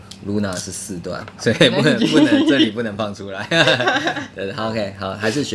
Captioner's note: ha ha